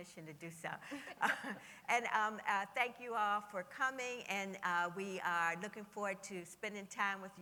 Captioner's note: laughter